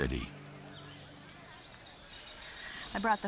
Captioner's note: birds chirping